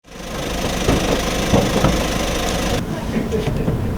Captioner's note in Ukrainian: звук автомобіля